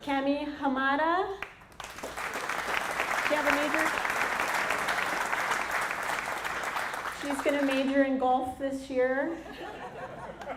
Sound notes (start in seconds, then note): 4.1 applause